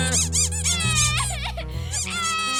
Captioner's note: sobbing